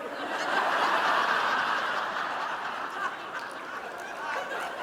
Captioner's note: audience laughing